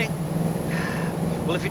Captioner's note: sighs